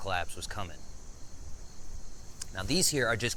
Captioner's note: insects chittering